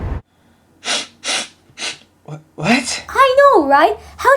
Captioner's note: sniff sniff